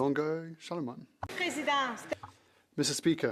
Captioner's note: some Applause